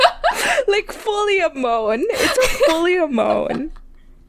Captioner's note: both laugh; laughing; laughing